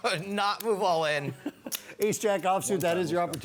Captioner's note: laughs